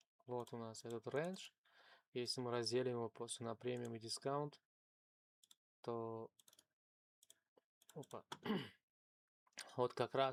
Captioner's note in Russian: откашливается